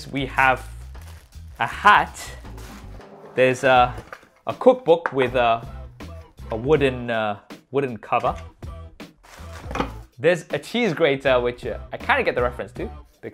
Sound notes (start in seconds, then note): 5.3 knuckles tapping; 9.2 plastic crinkling; 9.3 book clattering